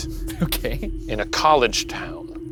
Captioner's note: laughs